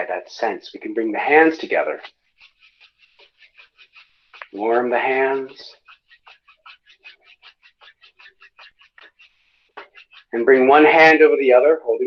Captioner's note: rubbing hands together